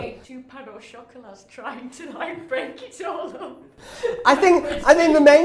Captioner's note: laughing